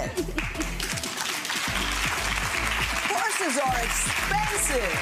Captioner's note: clapping